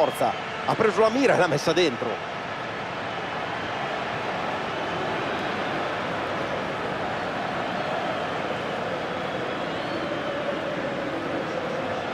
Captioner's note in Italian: Applauso